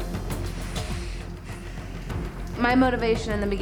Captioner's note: sighs